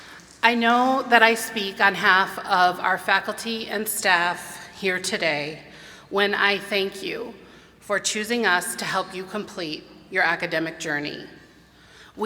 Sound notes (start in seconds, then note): none